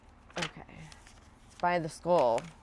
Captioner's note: pages fluttering